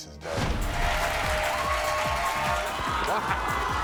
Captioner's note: applauding